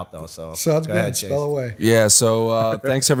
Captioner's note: chuckle